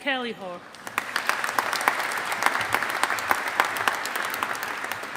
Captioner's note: audience applauding